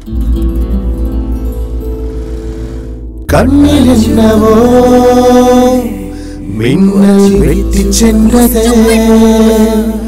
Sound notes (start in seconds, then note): none